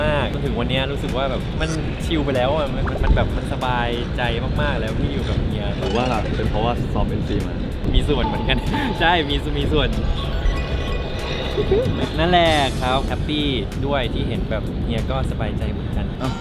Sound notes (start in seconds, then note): 11.4 giggling and whispering in secret